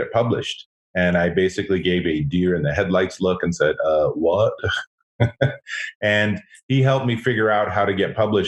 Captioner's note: laughs